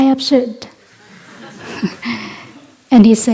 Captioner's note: gentle laughter